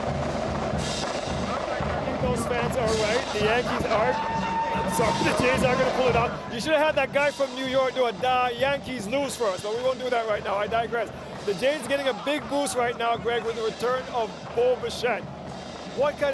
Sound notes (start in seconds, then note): 1.5 cheering; 8.1 drumming